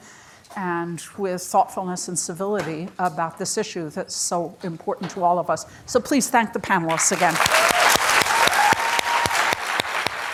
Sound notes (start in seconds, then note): 6.9 applause